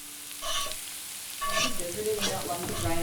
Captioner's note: pan sizzles